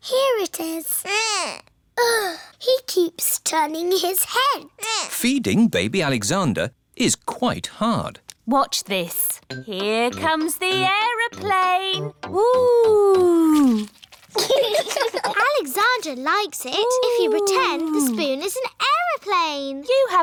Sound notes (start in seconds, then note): 14.3 laughter